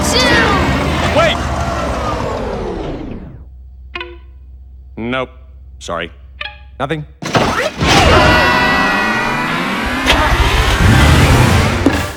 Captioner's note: the engines die down